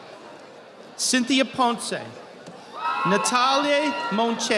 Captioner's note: audience applauding